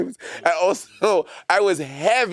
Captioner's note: Monét chuckling